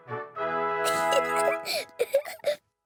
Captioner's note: giggles